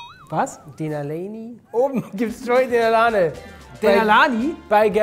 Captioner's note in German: englischer Akzent